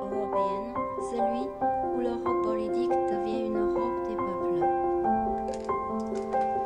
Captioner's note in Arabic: فرنسي